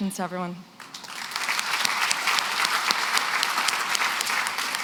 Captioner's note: applause